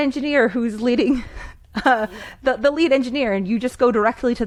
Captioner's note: laughs